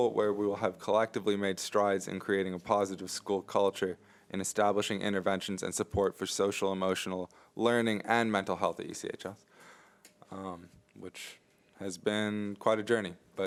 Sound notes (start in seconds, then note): none